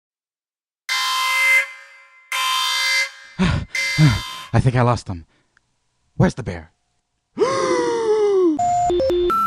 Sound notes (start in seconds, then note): 0.8 jail escape alarm; 3.4 breathes heavily